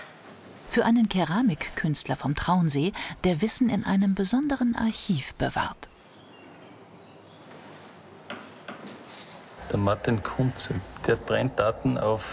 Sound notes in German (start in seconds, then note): none